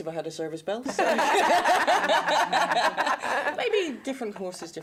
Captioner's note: laughter